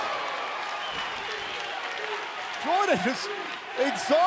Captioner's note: crowd cheering